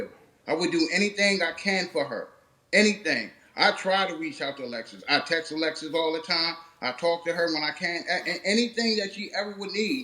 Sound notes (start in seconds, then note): none